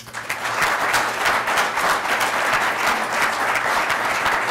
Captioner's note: audience applauds